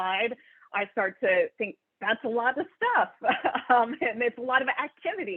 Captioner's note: laughs